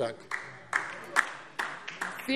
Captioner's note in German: Beifall DIE LINKE